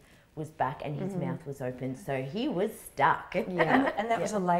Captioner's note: chuckles